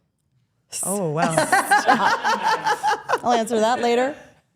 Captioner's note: laughs